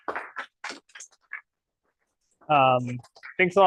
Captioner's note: applause